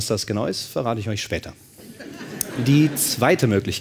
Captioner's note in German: Lachen